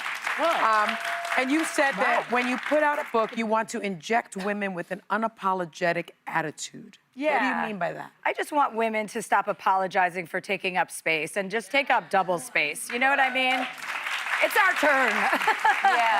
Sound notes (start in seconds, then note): 3.7 applause